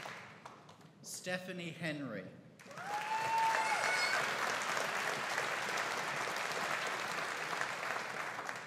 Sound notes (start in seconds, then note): 2.6 audience cheering and applauding